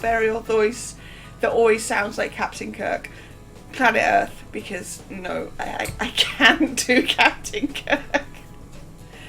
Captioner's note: laughing